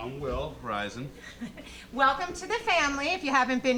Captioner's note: laughing